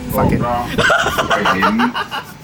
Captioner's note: laugh